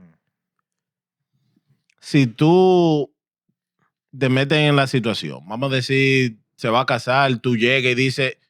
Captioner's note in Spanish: Hablando en idioma extranjero